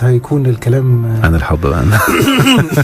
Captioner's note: laugh!